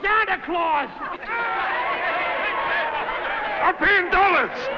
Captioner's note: crowd laughing